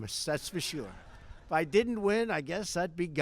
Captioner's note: laughter